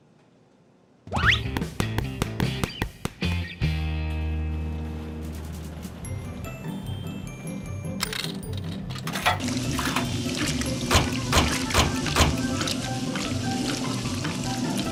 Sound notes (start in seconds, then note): 4.0 washers humming